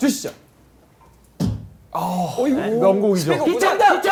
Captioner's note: kick